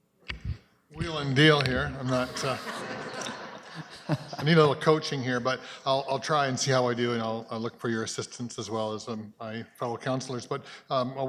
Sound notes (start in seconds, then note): 1.7 speaks off mic; 4.6 laughter